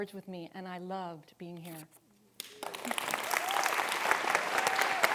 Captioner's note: audience clapping